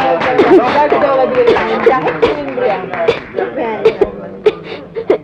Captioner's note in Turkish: Öksürükler